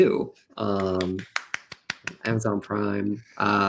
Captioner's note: clapping